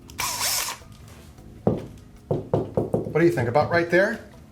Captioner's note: drilling; knocking